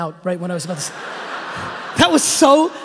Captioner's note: audience laughing